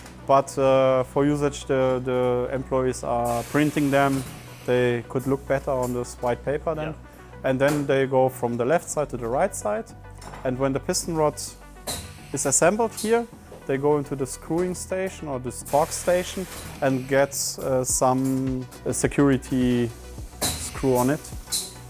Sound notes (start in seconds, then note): 15.6 gas hissing